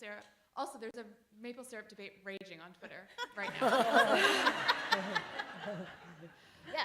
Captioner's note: laughter